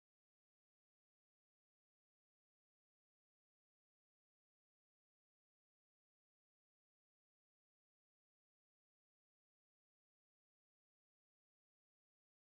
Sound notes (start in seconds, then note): none